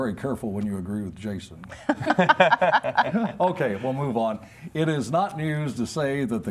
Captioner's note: laughter